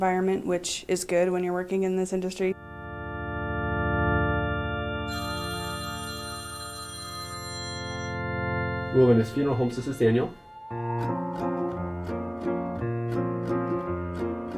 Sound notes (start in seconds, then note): 7.7 phone ringing; 13.6 whimsical music